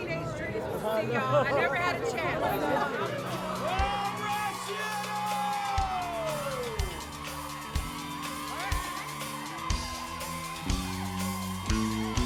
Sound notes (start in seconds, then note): 6.1 crowd cheering